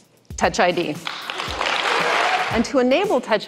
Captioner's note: clapping